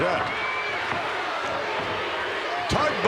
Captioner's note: crowd shout